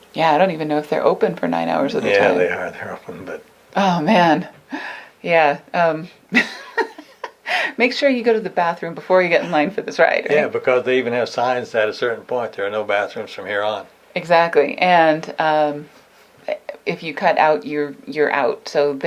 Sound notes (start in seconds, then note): 6.3 laughs